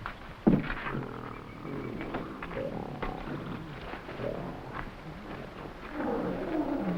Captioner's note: animals chattering; gorilla grunting; jungle animals chattering; footsteps echoing